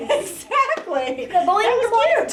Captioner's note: laughs